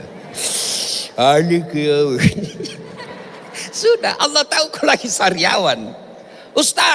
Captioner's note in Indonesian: tertawa